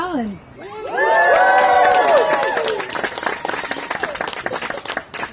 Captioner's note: guests cheer